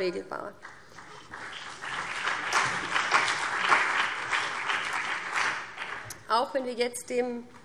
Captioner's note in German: Beifall BÜNDNIS 90/DIE GRÜNEN und CDU